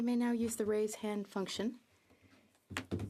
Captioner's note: speaking French